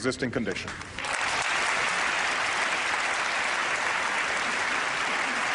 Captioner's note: applause